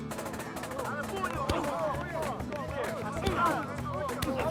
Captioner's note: todos gritando en español